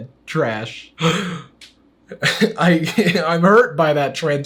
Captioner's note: gasps dramatically